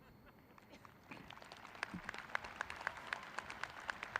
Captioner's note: clapping